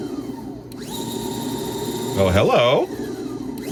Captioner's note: tape recorder whirring